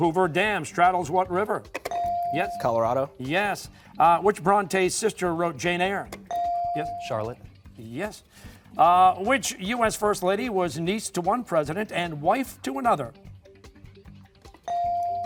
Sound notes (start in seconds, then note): none